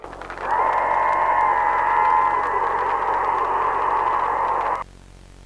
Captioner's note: Creature roars as VON FREEZE looks up